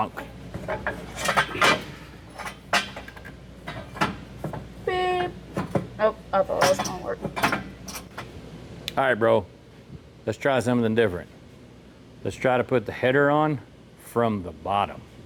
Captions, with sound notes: (Horn Honking) Oh, that's not working. All right, bro, let's try something different. Let's try to put the header on from the bottom.